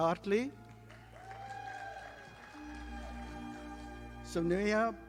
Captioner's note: audience applauding